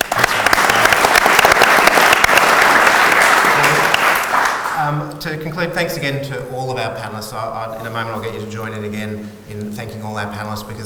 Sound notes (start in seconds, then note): 0.0 audience applauds